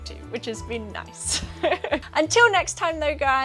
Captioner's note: laughs